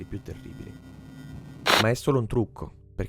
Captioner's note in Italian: rumore statico